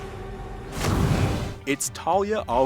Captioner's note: smoke booming